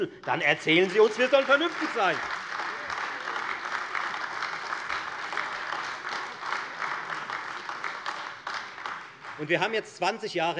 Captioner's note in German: Beifall Freie Demokraten und AfD